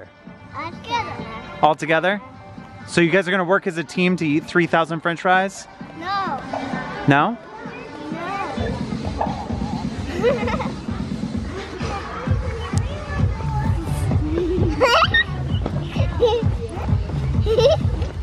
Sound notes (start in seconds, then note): 9.9 giggles; 14.1 giggles